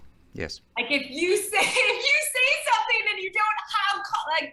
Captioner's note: chuckling